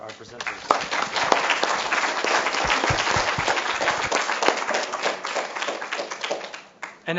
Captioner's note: applause